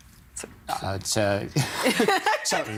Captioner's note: laughing